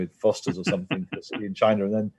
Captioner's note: laugh